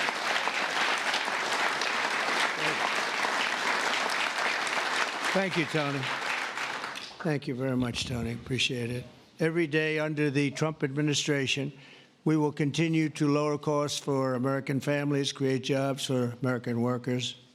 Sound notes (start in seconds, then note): 7.6 applause